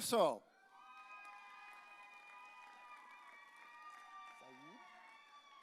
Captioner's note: audience cheering